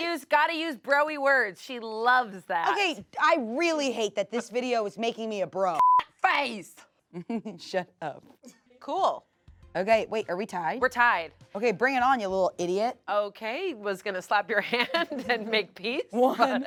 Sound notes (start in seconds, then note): 5.7 beep; 7.2 laughs